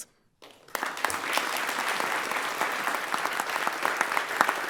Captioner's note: everyone applauds